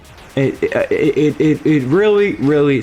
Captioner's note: stutter Moment